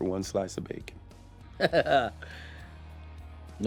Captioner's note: laughs